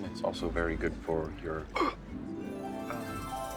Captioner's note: gasps